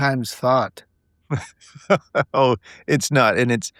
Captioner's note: laughing